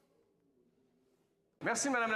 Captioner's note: speaking FRENCH